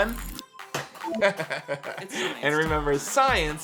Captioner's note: laughs